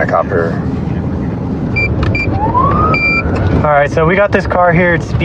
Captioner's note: bututtotons b beeeeping